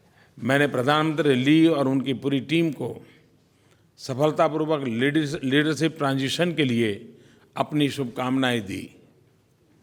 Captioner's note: PM Modi speaks in Hindi